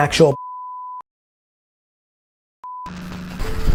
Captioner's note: beep